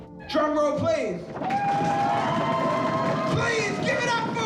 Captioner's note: cheering